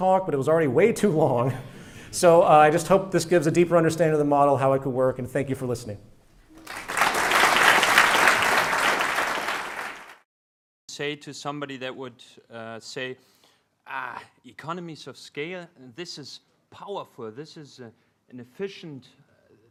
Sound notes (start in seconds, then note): 6.5 applause